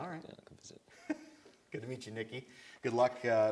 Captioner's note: laughs